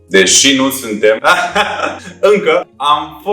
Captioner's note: laughs to mask the internal cry